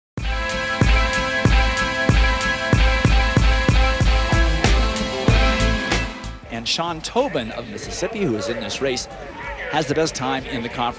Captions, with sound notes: (upbeat rhythmic music) - [Voiceover] And Sean Tobin of Mississippi, who is in this race, has the best time in the conference